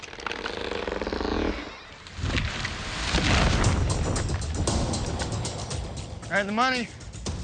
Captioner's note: creaking